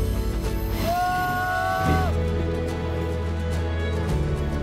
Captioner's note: scream